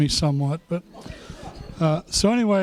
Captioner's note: laughter